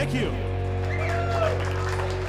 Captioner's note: applause; cheering